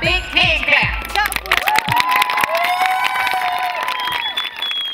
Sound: applause and cheering

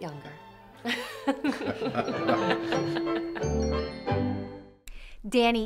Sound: laughing

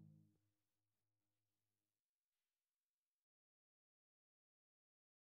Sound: silence

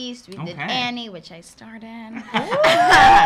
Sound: laughs

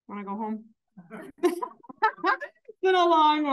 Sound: audience laughing

